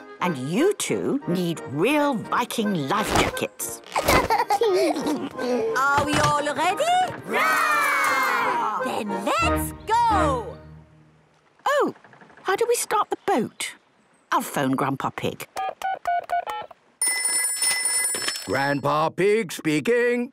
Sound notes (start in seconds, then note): 17.0 dial tones beeping; 17.0 ringing